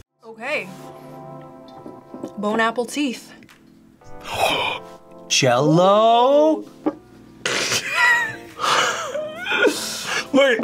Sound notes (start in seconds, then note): 4.2 gasps; 7.5 both laugh